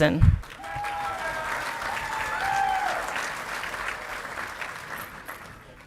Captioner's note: audience clapping and cheering